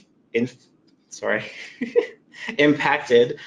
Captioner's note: laughs